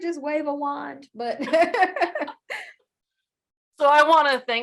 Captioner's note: laughter